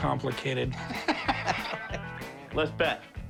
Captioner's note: laughter